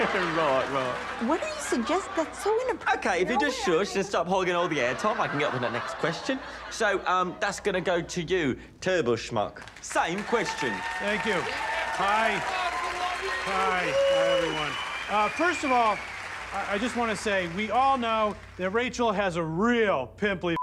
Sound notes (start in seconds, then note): 4.5 audience laughs; 10.4 audience cheers, applauds